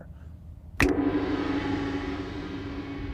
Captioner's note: finger snap; gong